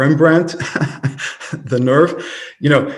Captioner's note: laughing